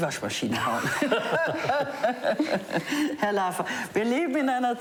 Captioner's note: all laughing; speaking foreign language